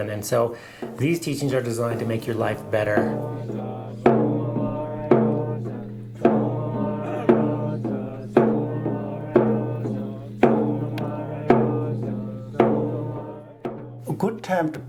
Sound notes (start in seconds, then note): 4.3 chanting